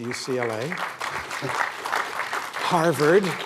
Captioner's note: applause